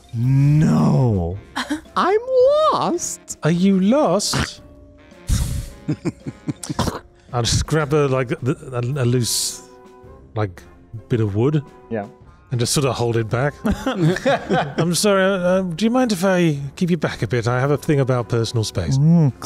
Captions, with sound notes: No. I'm lost. Are you lost? [Chuckles] I'll just grab a like a loose like bit of wood. And just sort of hold it back. [Chuckles] I'm sorry. Do you mind if I keep you back a bit? I have a thing about personal space.